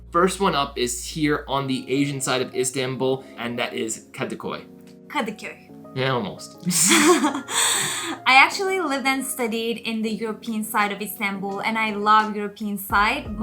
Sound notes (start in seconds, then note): 6.6 laughing